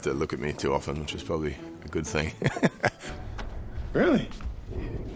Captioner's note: laughing